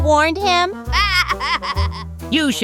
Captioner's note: Junior Laughing